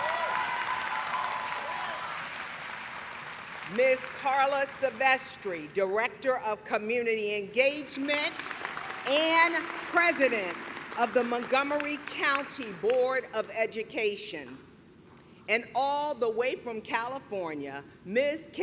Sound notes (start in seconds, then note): 3.5 cheering